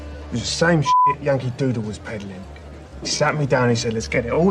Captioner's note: beep